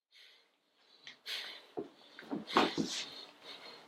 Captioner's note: breathing heavily